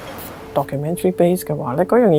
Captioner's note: Cantonese